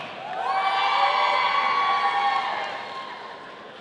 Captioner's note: audience cheering